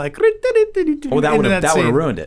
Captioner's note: Charlie mimicking